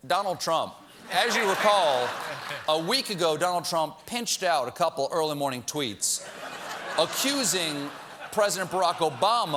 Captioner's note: laughter